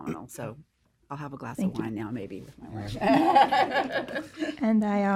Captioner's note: laughter